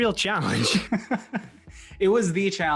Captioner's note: laughs